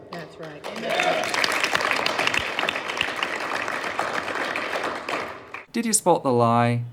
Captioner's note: audience starts clapping